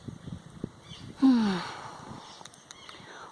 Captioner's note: sigh !